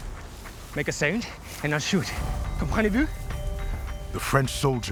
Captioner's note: in french